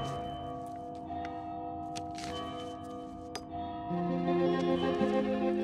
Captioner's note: bell tower ringing